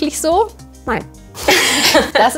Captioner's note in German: Lachen